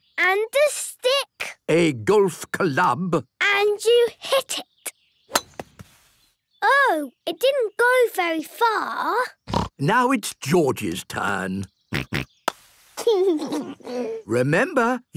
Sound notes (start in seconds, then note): 9.4 snort; 13.1 snort, laughing